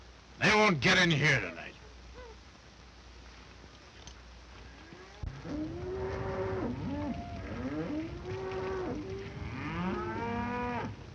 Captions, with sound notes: They won't get in here tonight. [cows mooing]